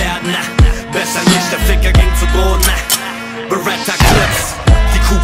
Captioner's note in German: Gunshot